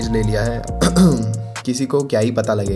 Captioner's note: coughs